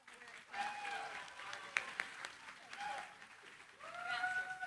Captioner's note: cheering, applause